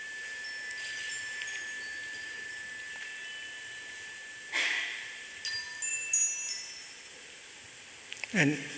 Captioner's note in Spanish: Se oyen unas campanitas